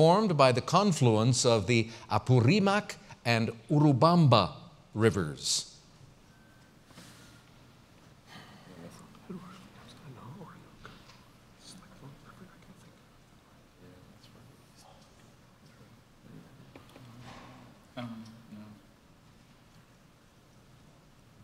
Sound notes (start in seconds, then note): 5.3 pause